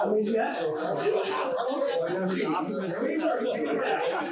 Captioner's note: overlapping chatter